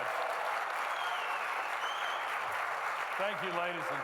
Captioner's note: audience clapping